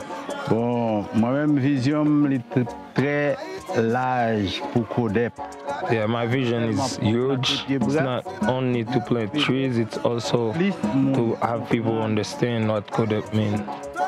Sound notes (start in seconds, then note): 0.6 speaking in foreign language